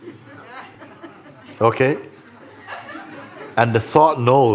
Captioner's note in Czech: smích